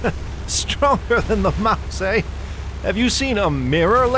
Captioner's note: laughing heartily